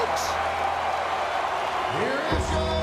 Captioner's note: crowd cheers